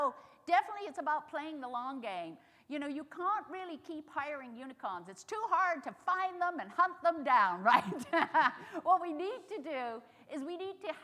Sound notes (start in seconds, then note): 7.7 chuckles